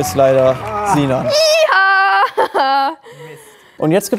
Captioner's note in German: freudig